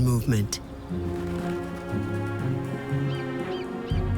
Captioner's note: wings flapping